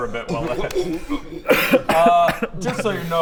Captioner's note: retches